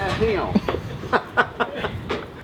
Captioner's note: laughter